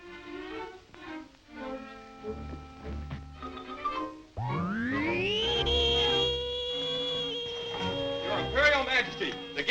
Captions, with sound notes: (suspenseful music) (Vol Plane whizzes) - Your Imperial Majesty,